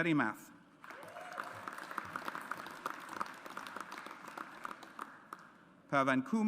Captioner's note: audience applauds